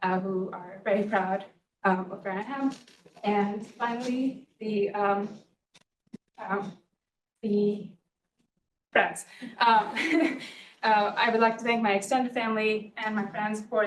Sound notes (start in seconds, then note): 9.6 laughs